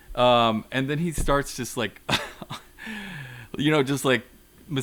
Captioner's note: chuckles